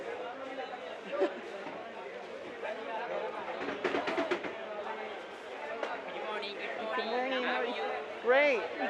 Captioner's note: chatter